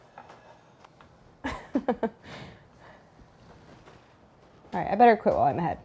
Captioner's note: laughs